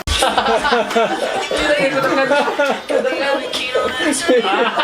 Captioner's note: laughter